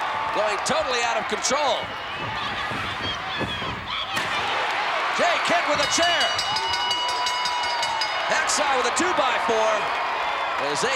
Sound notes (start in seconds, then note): 2.0 crowd cheering; 5.7 bell dinging